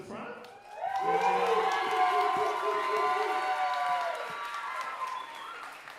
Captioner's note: audience cheering and applauding